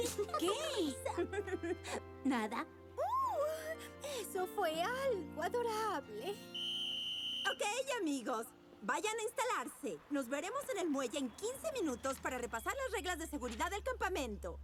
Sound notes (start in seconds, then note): 6.4 whistle tweet